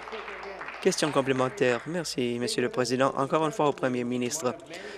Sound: applause

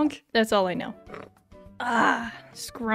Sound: slurp

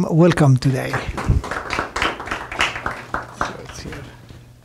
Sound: applause

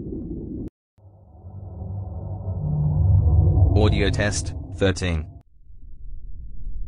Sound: eerie ethereal transitional SFX

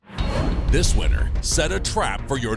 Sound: voiceover

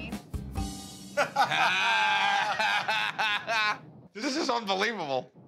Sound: laughter

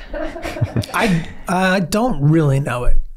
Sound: laughing

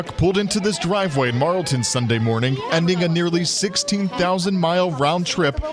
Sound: cheers and applause

